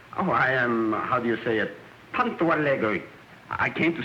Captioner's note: non-english speech